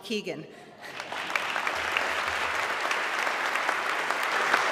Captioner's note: audience clapping